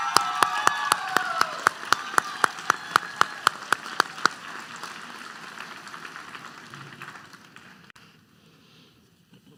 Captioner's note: applause